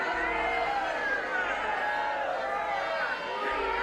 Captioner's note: crowd yelling